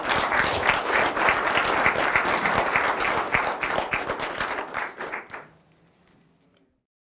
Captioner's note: applause